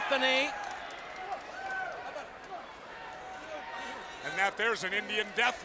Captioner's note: audience cheers